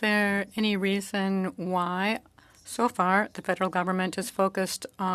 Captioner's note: speaking French